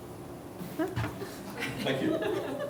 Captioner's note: laughter; voiceover